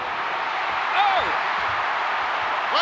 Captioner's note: crowd cheering